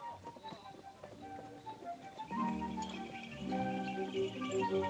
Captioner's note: hoofbeats; jingling